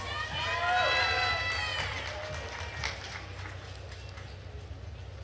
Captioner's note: attendees cheering and applauding